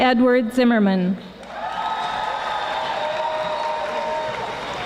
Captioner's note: audience applauding